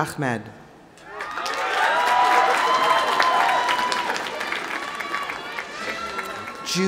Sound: audience applauding; audience cheering

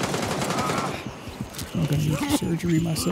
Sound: gunfire

